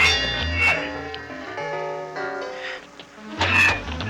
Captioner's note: clanging